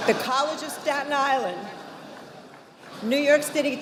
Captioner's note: audience applauding; audience applauding